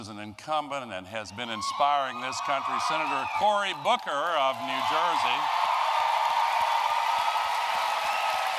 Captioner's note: applause